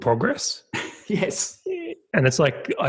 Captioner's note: laughs